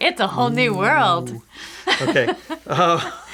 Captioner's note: laughing